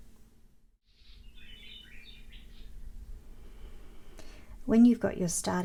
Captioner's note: birds tweeting in background